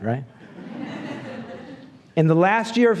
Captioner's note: laughs